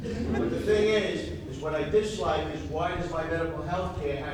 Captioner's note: audience laughs